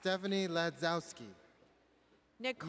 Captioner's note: none